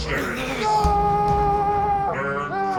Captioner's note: Tony screaming